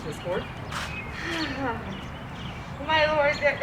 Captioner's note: sighs